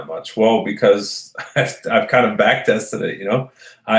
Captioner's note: laughs